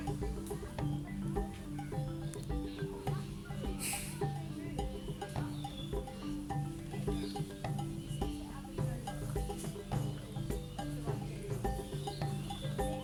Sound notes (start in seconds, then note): 0.1 birds chirping, people chattering; 3.8 sniffles in gentle amusement; 4.6 birds chirping, people chattering